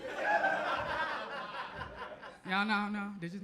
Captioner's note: audience laughs